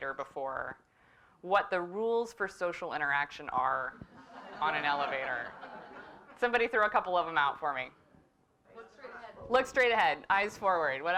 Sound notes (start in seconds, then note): 5.8 laugh